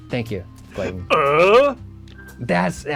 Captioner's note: grunts